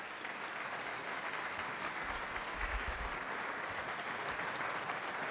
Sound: everyone applauds

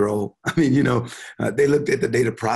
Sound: chuckling

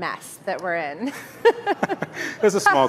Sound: chuckling

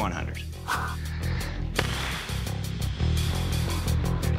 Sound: exhales deeply; tense music builds slowly

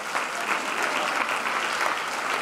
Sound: applause

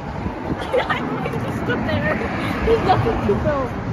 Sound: laughter

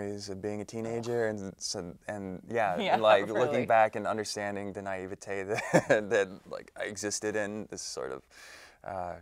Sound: laughs

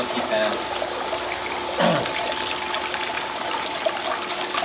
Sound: water running

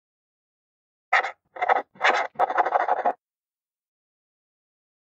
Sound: sound of pen

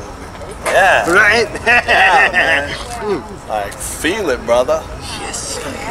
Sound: laughing

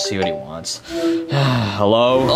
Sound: phone chimes

